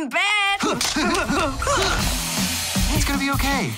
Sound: grunting

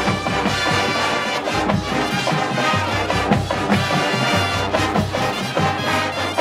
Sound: crowd cheers

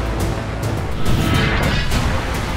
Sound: whooshing sound

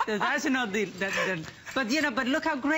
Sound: laughter

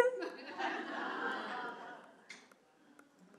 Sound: laughing

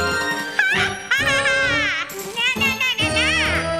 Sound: laughing

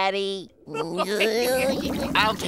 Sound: laughing

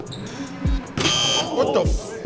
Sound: buzzer buzzing

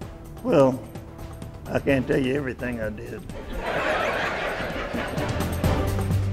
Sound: laughter

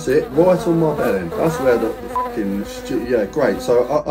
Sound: beep

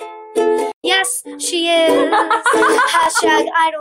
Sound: laughs

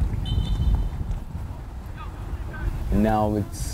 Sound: whistle blows

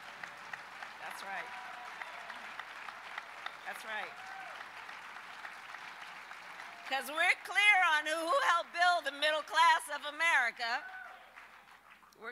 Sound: applause

